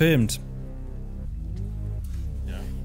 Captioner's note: quiet, gloomy sounds